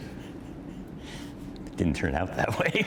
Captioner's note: laughter